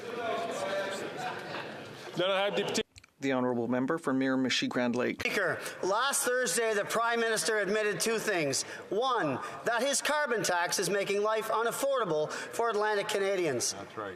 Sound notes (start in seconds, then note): 2.8 chatter